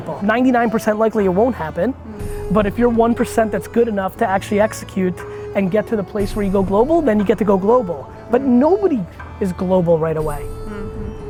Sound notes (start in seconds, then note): none